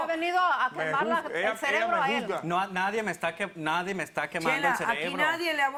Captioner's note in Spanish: Hablan al unísono